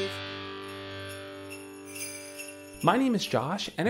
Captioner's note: bells jingling